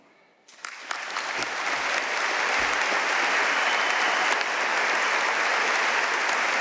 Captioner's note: audience cheering and applauding